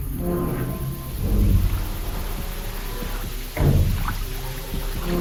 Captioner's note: water rushing